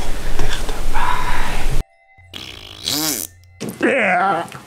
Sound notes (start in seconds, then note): 2.3 fart Noise